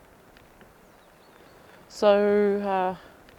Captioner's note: birds chirping